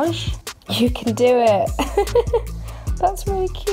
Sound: chuckles

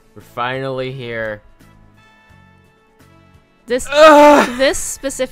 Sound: loudest moan yet

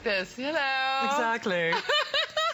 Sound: laughter

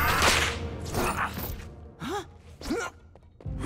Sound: grunting

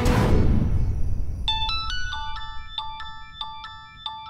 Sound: mobile ringing

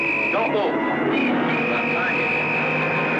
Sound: whistle blowing

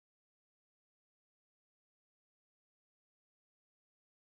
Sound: speaking Spanish

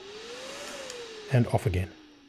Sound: fan whirs; click

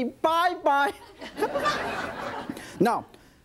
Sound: audience laughing

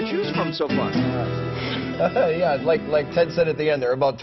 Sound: laughs

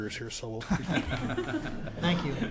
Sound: laughter

